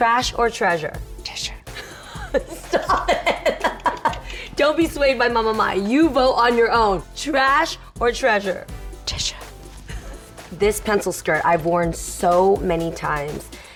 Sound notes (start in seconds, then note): 1.8 laughs